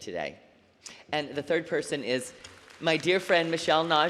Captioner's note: applause